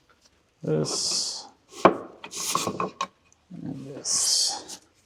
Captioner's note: wood rattling